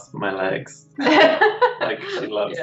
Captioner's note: laughs